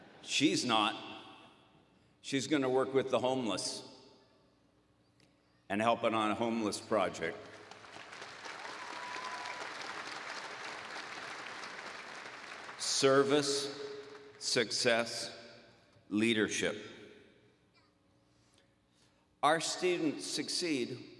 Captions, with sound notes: She's not. She's going to work with the homeless and help on a homeless project. [ Applause ] Service, success, leadership. Our students succeed